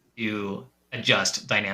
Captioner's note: none